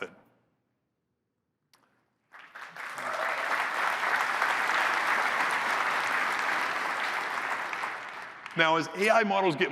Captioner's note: applause